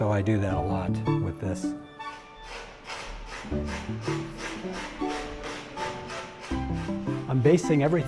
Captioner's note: sanding